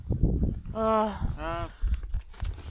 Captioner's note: frustrated sigh